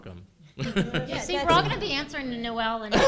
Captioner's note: chuckles